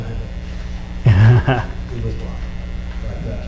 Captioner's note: laughs